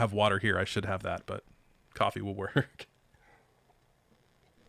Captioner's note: chuckles